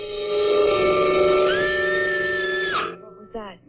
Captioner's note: anita screams